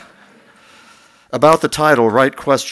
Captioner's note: laughter